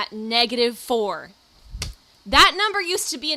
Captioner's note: aggressive paper placement